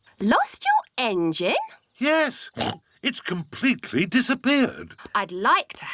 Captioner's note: oinks